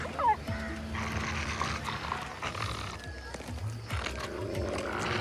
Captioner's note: dogs growling